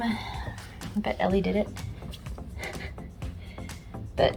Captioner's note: laughs